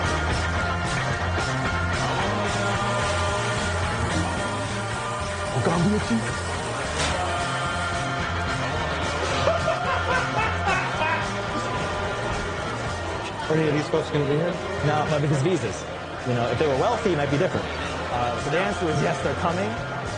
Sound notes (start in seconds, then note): 5.6 speaks in foreign language; 9.3 laughs